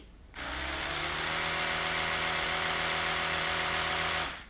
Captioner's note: motor whirring